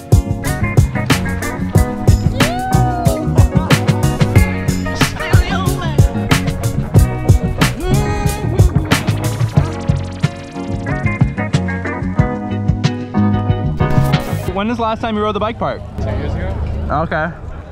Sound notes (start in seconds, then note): 1.2 biker cheers